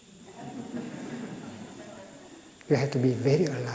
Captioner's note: laughter